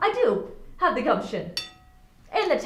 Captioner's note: dish clanging